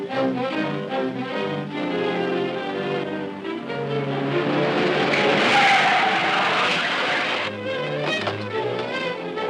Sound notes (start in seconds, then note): 4.6 brakes squealing